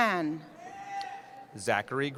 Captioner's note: cheering